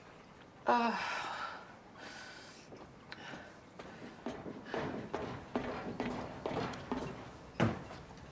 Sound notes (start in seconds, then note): 0.8 Jen moans